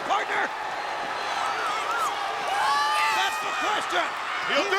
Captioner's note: audience cheering